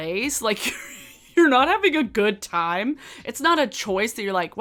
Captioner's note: chuckles